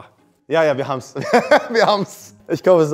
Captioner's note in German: lacht